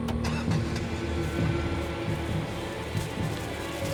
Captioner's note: engine rumbling